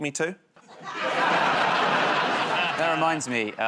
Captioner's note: laughter